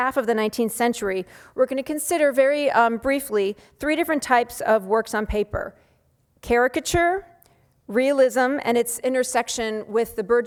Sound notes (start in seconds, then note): none